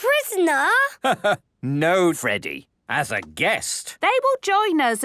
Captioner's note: laugh